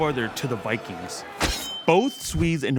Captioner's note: knife slashes